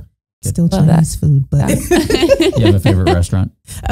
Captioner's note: all laughing